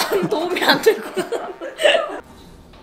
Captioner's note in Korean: 웃음